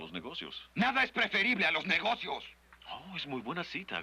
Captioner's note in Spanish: gritando